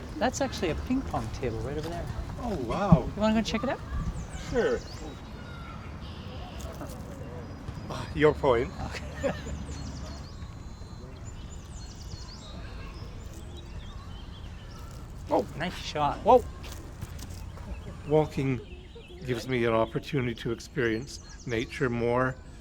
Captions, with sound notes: That's actually a ping pong table right over there Oh, wow! You want to go check it out? Sure. (Birds chirping) Ah, your point. (Laughter) (Birds chirping) Oh, nice shot! Woah! (Birds chirping) Walking gives me an opportunity to experience nature more.